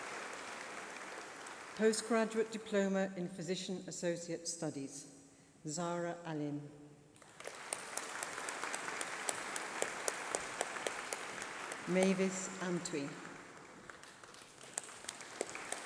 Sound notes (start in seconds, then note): 10.0 applause